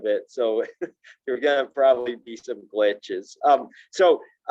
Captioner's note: chuckles